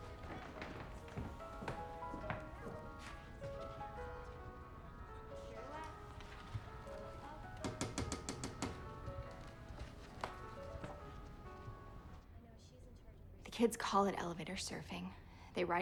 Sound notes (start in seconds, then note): 8.0 door knocking; 10.2 lively piano music